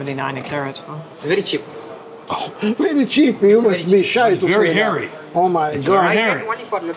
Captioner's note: scoffs